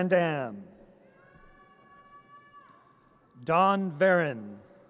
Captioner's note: audience cheers